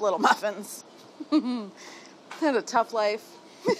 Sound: laughs

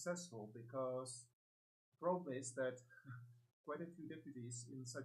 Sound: laughs

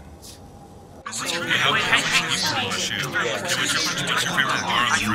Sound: yells in excited cacophony

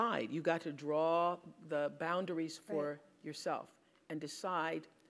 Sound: none

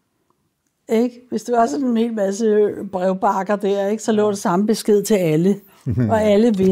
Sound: laughs

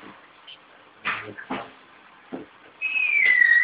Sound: door opening

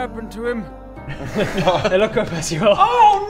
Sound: guilty laughter

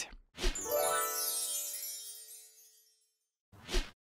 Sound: chimes

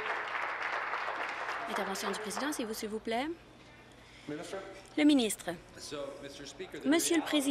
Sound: applause

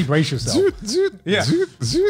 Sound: imitates alarm

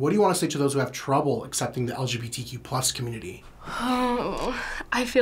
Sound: sighs

